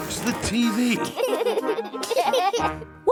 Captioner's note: laughter